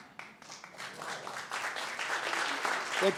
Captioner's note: applause